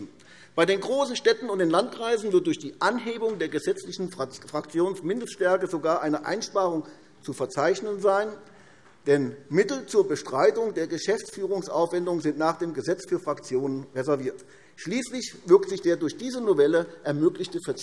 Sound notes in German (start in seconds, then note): none